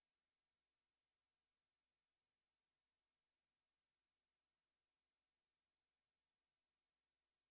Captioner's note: none